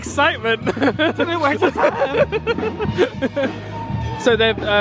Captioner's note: laughs